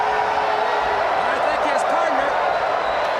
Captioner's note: crowd cheering